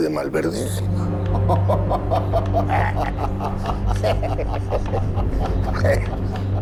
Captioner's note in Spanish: Risas